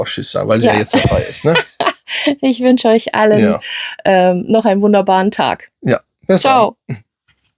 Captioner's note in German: gelächter